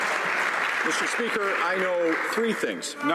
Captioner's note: some Applause